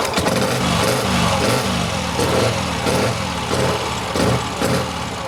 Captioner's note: motorcycle engine starting